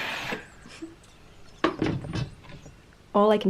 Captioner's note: lady giggles